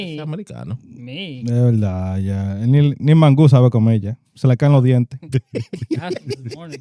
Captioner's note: laughing; speaking In Foreign Language